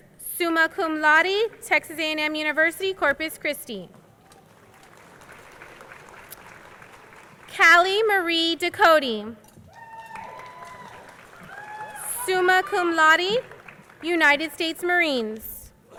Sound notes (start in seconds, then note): 9.7 crowd cheering